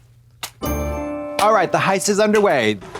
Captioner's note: bright chime